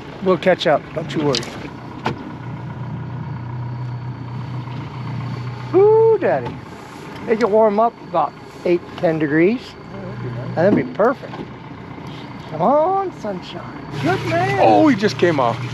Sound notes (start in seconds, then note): 2.4 boat engine idling